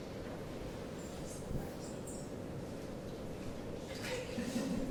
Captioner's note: indistinct chatter